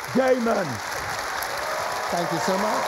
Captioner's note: cheering and applause